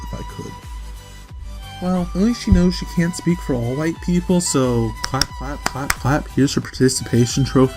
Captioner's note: clap Clap